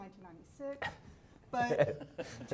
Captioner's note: laughing